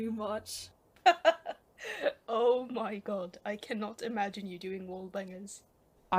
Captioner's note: laughs